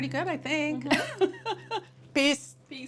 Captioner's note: laughter